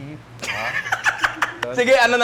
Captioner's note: laughs in falsetto